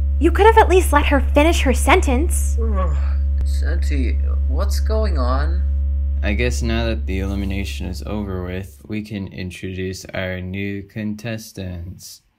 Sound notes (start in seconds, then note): 2.6 yawn